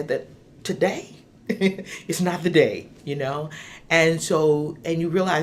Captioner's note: chuckling